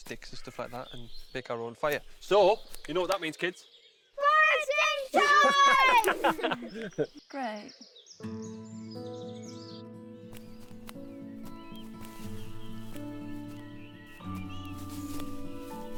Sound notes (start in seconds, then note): 5.1 all laughing; 8.2 gentle orchestral music